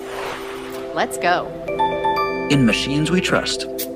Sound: app notification sounds

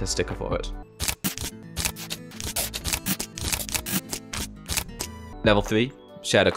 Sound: sounds of frantic sticker placing

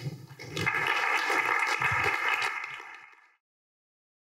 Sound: applause

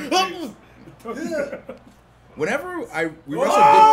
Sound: laugh

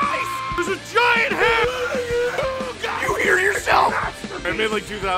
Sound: Harry potter screaming; screaming

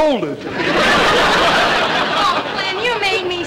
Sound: audience laughter

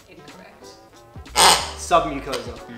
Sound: squeaks

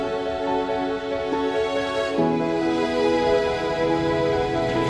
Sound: airplane engine

